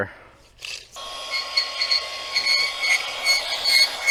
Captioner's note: machine revs